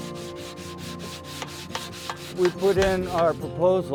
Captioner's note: scraping rock